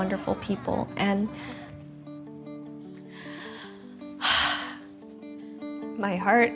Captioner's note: sighs